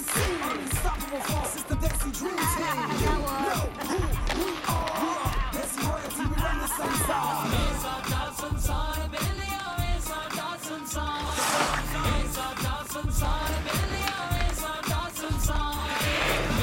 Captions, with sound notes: (laughing) - Ha, ha, ha, got one. Ow! (laughing)